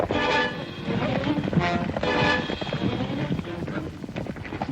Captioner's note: hooves clomping